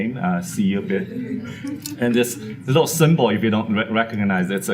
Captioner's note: audience laugh